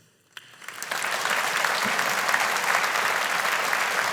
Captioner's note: audience applauding